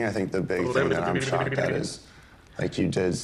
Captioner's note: lip-trilling